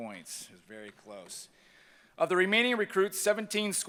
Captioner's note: none